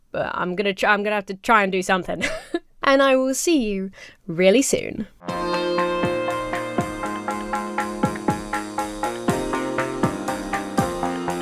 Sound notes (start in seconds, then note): 2.1 laughs; 5.3 reflective goth rock